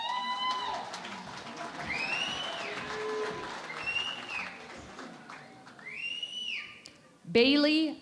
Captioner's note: cheering and Applause